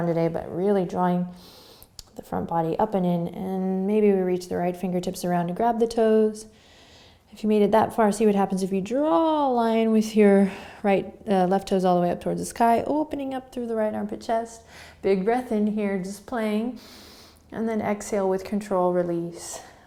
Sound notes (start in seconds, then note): 16.8 inhaling